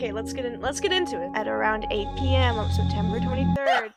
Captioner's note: in narrator voice